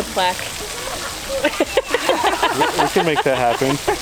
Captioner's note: laughing